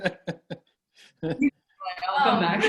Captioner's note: laughs